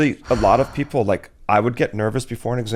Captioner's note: sighs